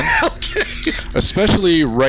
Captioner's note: laughing